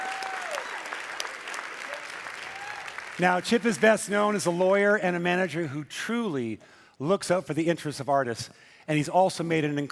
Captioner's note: cheering and Applause